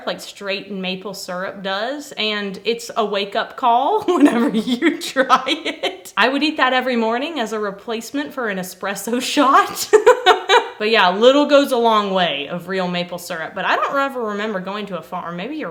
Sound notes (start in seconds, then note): 9.6 laughs